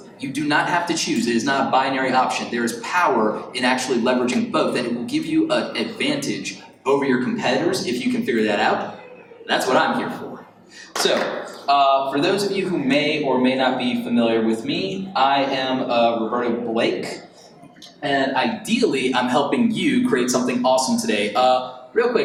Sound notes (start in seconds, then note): 10.9 attendees applaud